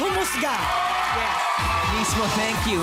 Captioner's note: applause